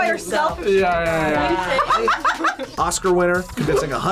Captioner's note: group laughs